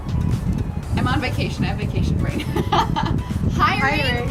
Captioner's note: laughs